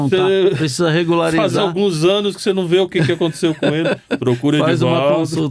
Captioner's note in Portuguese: risadas